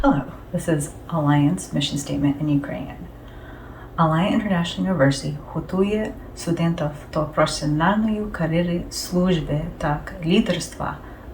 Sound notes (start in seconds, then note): 4.1 speaking in Ukrainian